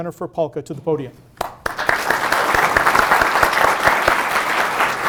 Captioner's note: audience applauding